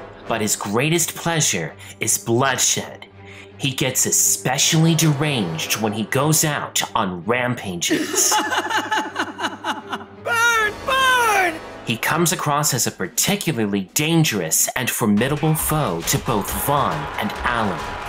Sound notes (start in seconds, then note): 7.8 cackling